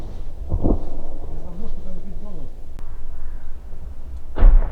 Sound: remote cannonade

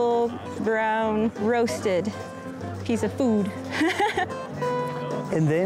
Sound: laughs

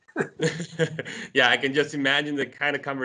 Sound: laughs

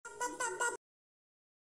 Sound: talking

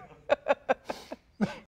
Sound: laughter

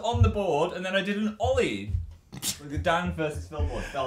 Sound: snort giggle

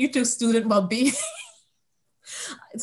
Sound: laughs

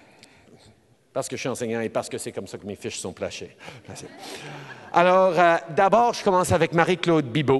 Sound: laughter

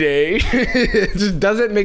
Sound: laughs

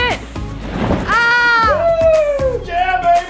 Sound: cheers

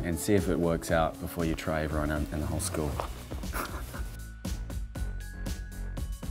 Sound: laughing

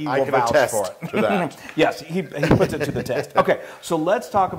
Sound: laugh

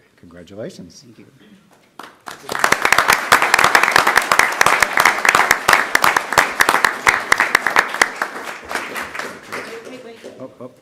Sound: applause

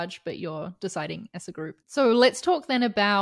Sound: none

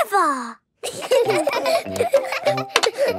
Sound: laughter

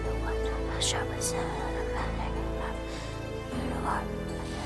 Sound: spell whispering

